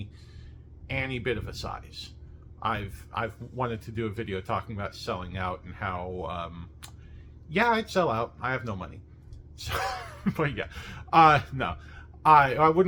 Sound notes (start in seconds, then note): 9.7 laughs